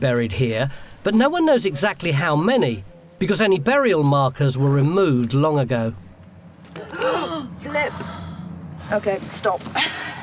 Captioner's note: gasp